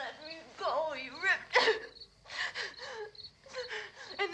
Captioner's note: sobs